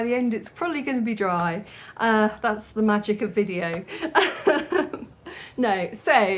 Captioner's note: laughing